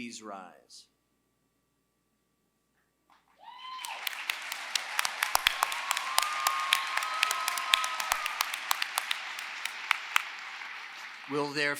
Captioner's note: applause